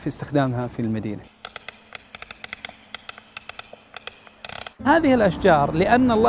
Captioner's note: ticking sound